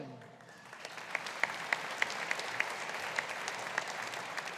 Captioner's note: audience applauding